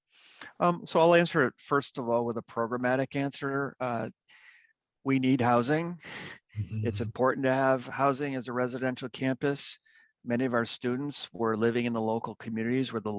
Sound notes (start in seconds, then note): 6.6 chuckles